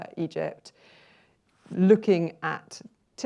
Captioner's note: inhales